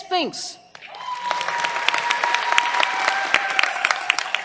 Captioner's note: cheers, applause